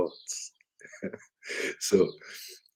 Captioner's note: laughs